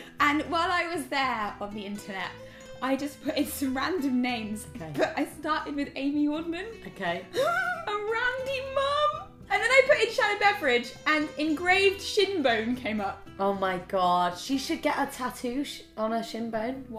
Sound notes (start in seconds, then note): 7.2 laughs